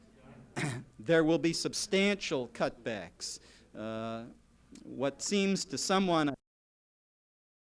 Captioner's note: legislator, clears throat